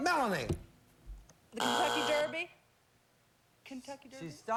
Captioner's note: buzzer